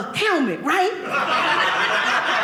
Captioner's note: audience laughing